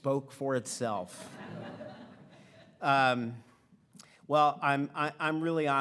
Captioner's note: audience laughing